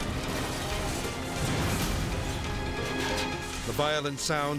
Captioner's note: metal clanging